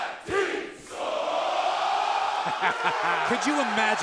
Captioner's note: crowd cheering